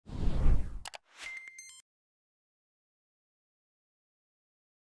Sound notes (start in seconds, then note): 1.1 whoosh and beeping